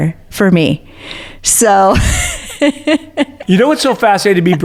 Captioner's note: laughs